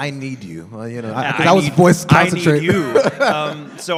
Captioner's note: laughing